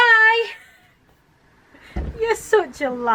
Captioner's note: laughing